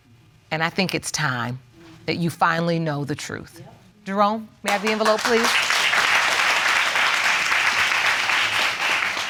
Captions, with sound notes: And I think it's time that you finally know the truth. Jerome, may I have the envelope please? (AUDIENCE APPLAUDING)